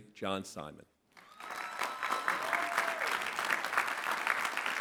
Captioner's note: clapping